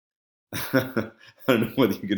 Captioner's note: laughs